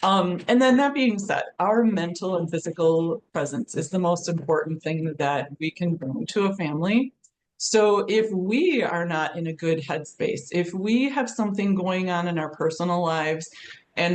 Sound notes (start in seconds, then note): none